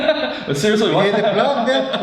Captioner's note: laughs